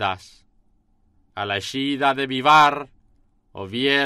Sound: speaking in foreign language

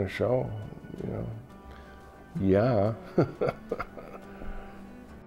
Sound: laughs

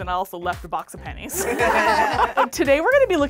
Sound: all laughing

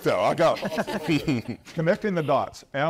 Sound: group laughs

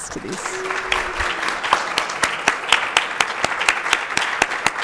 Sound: audience applauding

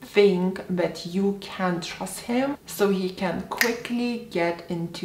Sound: snaps fingers

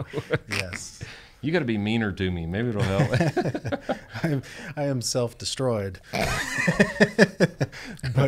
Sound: laughter

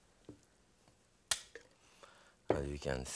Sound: spoon scooping

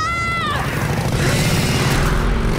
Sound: screaming; screeching

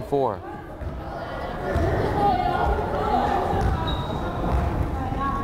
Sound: crowd chattering

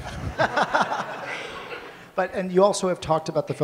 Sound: audience laughs

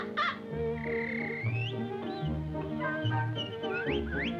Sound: birds chirping

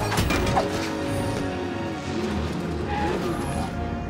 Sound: metal clanks; motors revving; vehicles brake

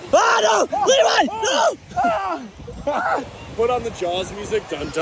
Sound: playful screaming

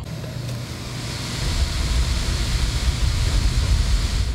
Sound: fan whirring

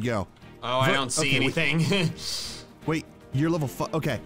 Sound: laughs

